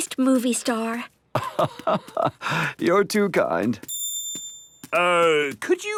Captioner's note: laugh